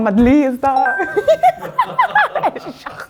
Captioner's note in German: Alle lachen